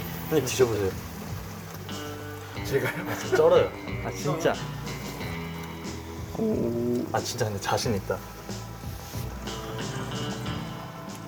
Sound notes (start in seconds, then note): 4.5 slurrrp; 8.9 slurrrp